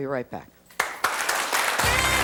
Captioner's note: audience applauds